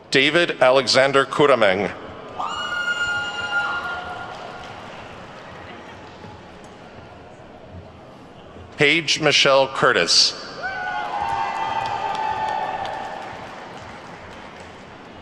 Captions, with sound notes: David Alexander Curameng. (attendees whooping and clapping) Paige Michelle Curtis. (attendees whooping and clapping)